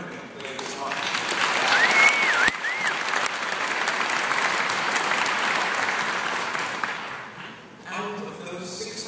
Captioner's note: applause